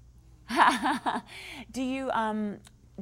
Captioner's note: laughter